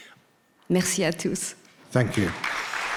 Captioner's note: speaking in French language